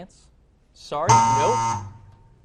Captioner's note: buzzer